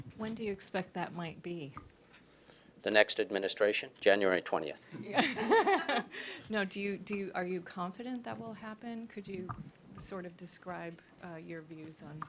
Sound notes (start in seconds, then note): 5.0 laughter